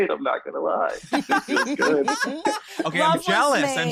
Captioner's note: laughs